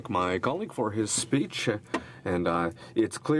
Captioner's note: speaking in french